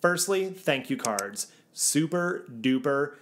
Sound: graphics click

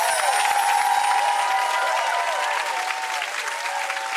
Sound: twinkling outro music; audience applauding

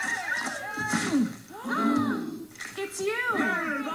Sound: cheering, camera shutters clicking; splat, all gasp; all chatter

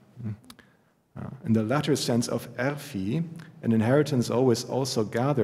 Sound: german

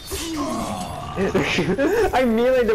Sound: laughing

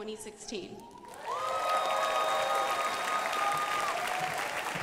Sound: crowd applauding

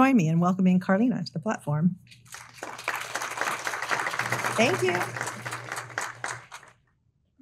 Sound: audience applauding

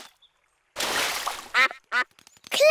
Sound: quacks

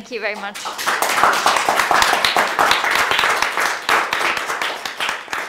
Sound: audience clapping

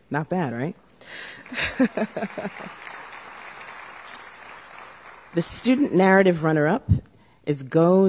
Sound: laughter; applause

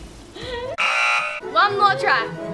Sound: both laugh; buzzer

